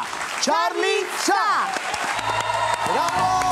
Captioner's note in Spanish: Aplausos